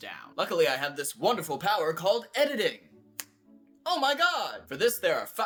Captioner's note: snaps